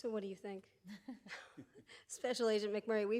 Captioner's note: laughs